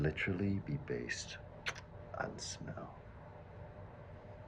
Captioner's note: kisses